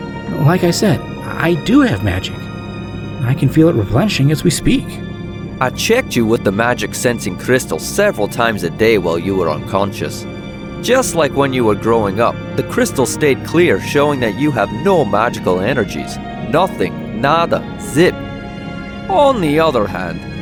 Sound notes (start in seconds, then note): none